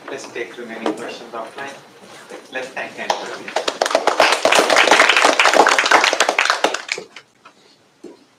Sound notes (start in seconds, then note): 3.1 applause